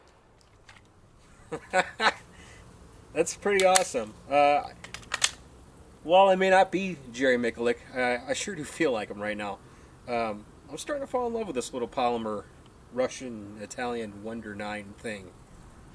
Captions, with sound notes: (laughs) That's pretty awesome. While I may not be Jerry Miculek, I sure do feel like him right now. I'm starting to fall in love with this little polymer Russian-Italian wonder nine thing.